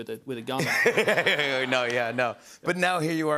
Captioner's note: laughter